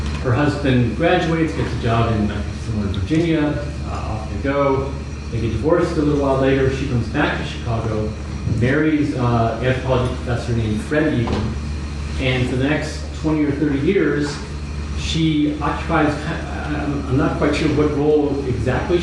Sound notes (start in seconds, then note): none